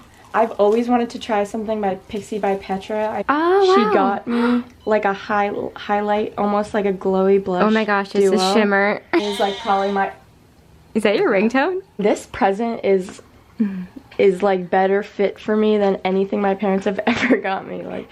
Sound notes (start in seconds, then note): 9.1 sheep bah